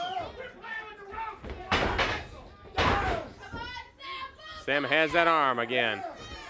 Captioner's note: crowd chatter